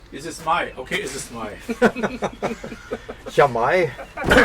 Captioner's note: laughter